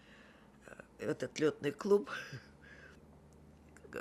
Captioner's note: laughing